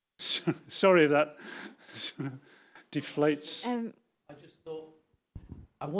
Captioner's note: laughs